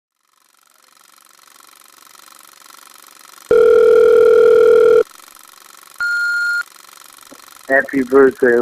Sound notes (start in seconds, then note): 3.5 phone ringing; 6.0 answering machine beep